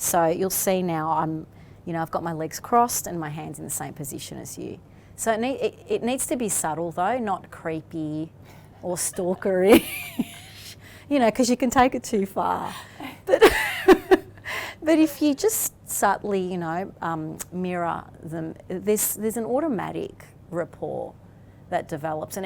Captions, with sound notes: So you'll see now, I've got my legs crossed, and my hands in the same position as you. So it needs to be subtle though, not creepy, or stalker-y. (laughs) You know 'cause you can take it too far. But if you just subtly, you know, mirror, there's an automatic rapport that develops,